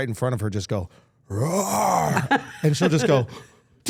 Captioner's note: growls